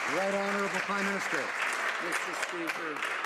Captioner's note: some Applause